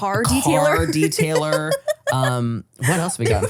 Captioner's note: laughs